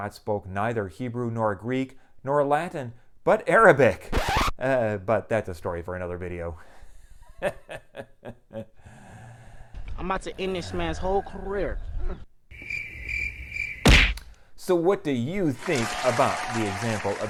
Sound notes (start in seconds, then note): 4.0 record scratch; 6.9 laughing; 12.3 punching sound; 12.5 crickets; 15.5 appluase